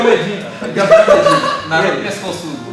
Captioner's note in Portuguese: Risos